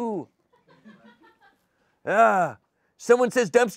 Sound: laughter

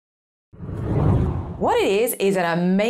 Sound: screen whooshes

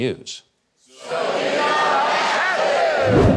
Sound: crowd

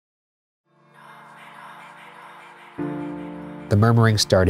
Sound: gentle whispering

